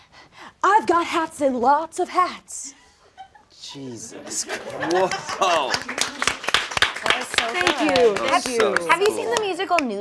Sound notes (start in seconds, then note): 6.6 all clapping